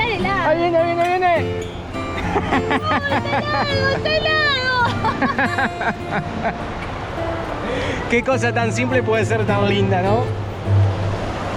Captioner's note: laughs